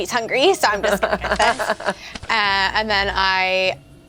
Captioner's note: laughs